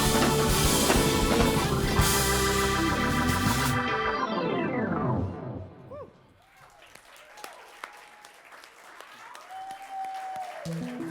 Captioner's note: applause